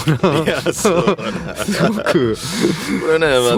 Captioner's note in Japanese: 笑い